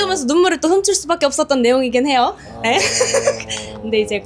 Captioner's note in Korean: 웃음